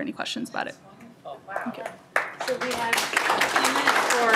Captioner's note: applause